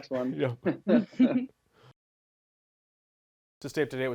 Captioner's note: laughing